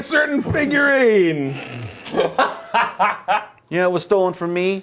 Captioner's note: laughing